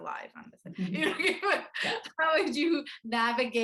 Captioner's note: laughs